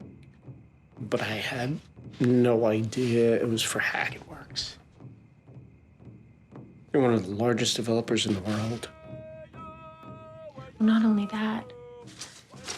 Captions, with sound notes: But I had no idea it was for Hackett Works. (drums beating) They're one of the largest developers in the world. (drums beating) (voices chant) - Not only that.